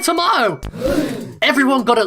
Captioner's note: offscreen group gasp